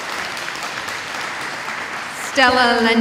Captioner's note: applause